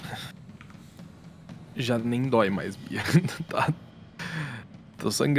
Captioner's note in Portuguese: risos